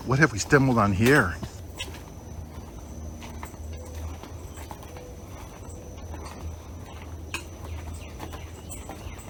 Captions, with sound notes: What have we stumbled on here? (footsteps tapping) (birds chirping)